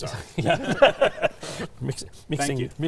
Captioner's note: laughing